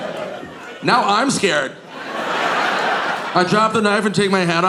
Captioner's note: audience laughing